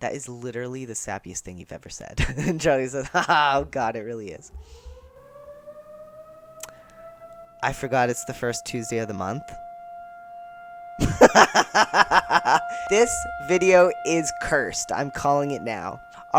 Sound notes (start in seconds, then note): 5.2 loud siren begins; 11.0 laughter